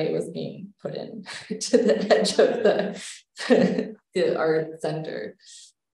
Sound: laughs

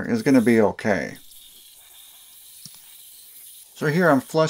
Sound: spraying sounds

